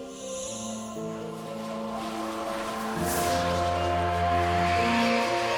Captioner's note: whoosh